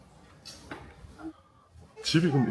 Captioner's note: kissing sound